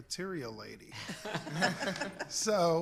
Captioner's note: laughs